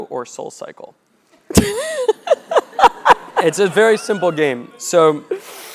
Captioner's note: laugh